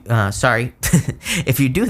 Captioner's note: chuckles